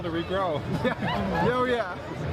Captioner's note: Gülme